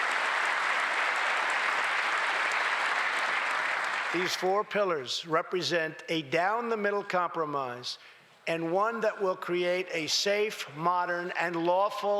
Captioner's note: applause